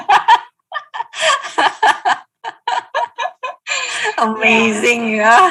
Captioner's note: laughing